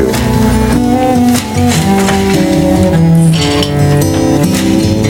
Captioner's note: weaving machine clatters